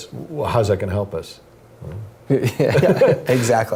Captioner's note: laugh